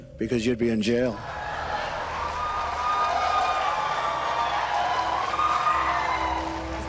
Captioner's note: applause